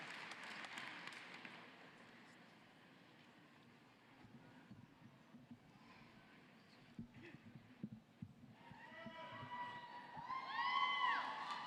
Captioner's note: cheering and applause